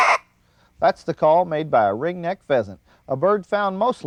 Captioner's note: bird call